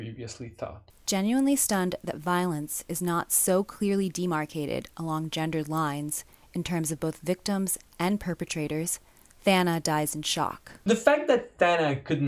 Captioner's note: different voice reads onscreen text